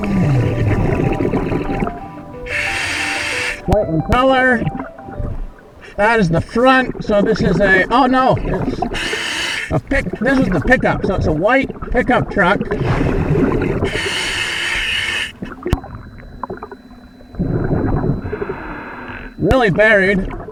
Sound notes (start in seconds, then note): 0.3 water burbling; 2.6 regulator hissing; 12.8 water burbling; 13.8 regulator hissing